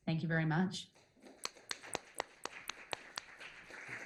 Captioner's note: applause